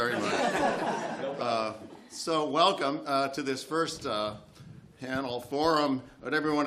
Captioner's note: laughter